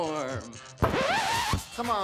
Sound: record scratches

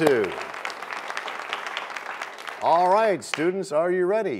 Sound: applause

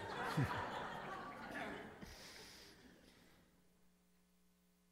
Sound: congregation laughing

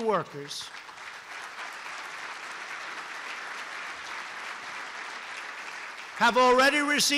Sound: applause

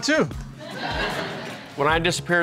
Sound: audience laughs

